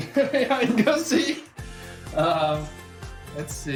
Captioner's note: laughs loudly